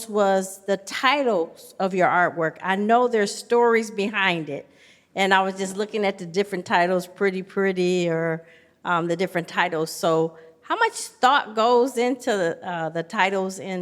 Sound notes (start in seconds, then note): none